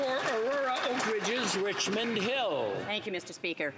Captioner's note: applause